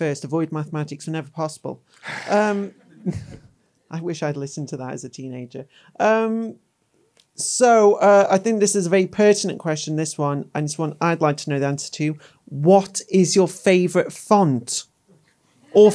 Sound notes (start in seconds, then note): 2.4 crowd laughing